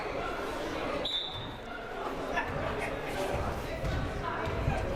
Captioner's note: whistle blaring